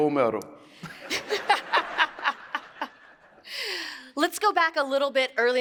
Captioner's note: laughs